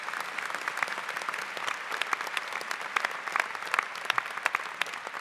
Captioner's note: applause